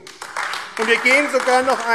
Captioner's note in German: Beifall AfD